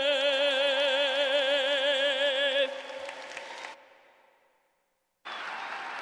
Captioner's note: cheers and applause